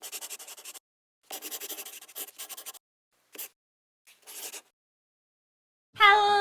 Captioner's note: the sound of a pen scratching